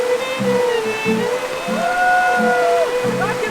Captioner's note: euphoric screaming